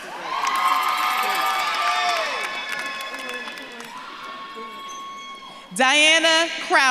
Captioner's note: audience claps and cheers